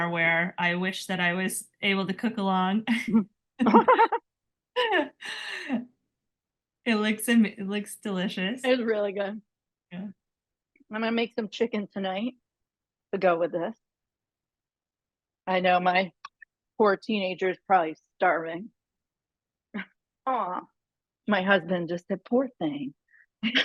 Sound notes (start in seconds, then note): 3.6 laughing